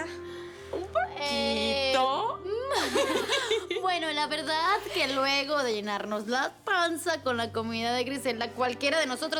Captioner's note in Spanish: Risas